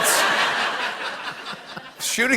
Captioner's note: laughter